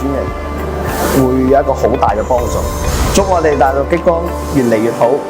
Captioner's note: cutting